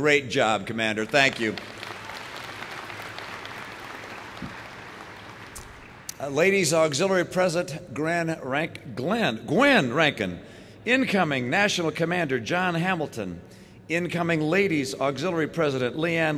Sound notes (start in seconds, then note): 2.6 applause